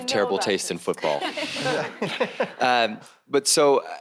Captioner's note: panelist chuckles